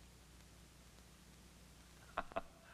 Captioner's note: laughing